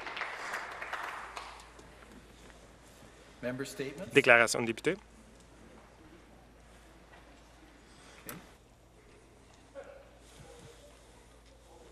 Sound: applause

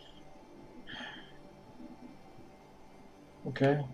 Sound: sighs

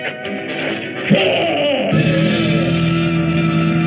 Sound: roars

